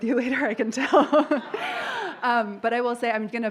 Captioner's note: laughter